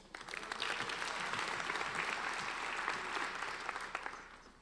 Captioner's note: applauding